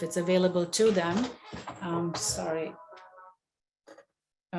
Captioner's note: phone ringing